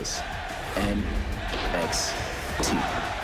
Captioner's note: crowd chants "nxt"